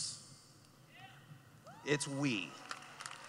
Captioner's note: cheering; clapping